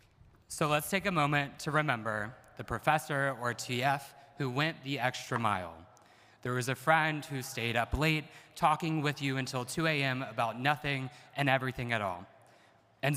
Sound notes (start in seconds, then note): none